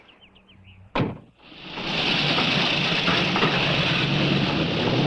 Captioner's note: engines revving